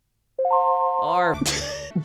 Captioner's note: positive chime; laughs